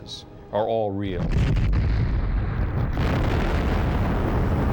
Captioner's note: explosion